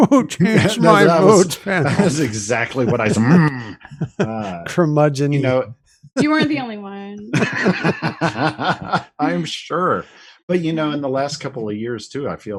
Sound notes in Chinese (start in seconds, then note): 7.2 笑声